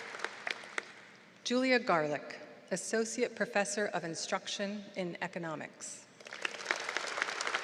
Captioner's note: applause